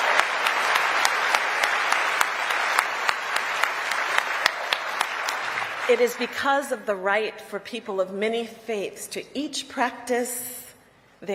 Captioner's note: applause